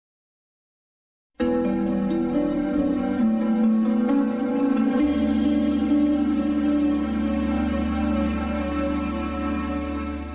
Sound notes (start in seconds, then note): 0.0 silence; 1.4 smooth digital synth music playing